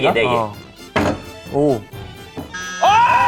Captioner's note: slam